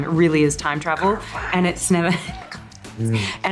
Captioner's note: Colin whispers; Margot whispers